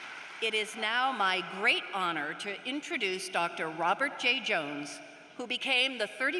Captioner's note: applause